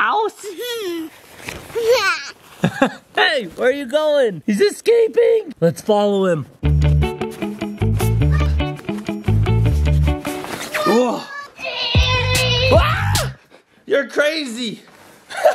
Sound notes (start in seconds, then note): 0.1 laughing; 13.1 screaming